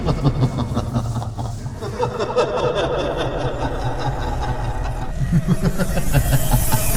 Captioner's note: evil, ominous laughing